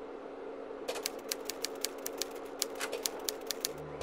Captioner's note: typewriter keys clack